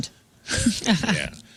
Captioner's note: laughing